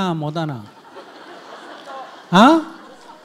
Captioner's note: audience laughs